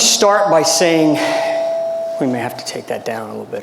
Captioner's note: audio distorts